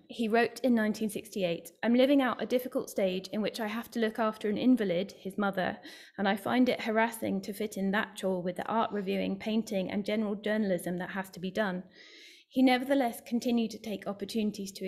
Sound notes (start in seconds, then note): none